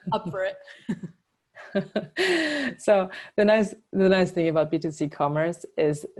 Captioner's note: laugh